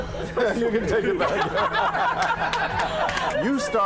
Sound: crowd laughs

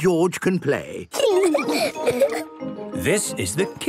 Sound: laughing

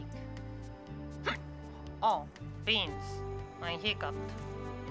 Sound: hiccups

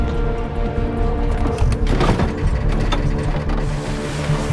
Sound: creaking

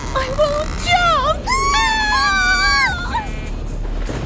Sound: whistles; puffs; whistles

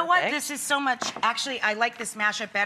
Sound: none

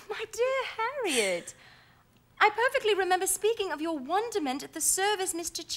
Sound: exhales

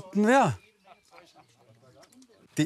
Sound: distant laughter

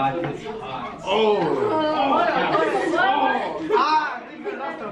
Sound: students muttering and exclaiming

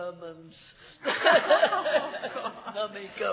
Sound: laughs

